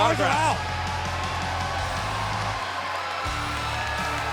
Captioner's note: crowd cheering